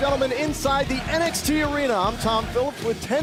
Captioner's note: crowd cheering